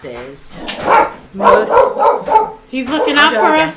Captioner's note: dog barking